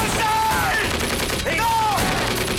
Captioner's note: guns firing